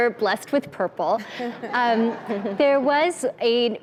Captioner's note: laughs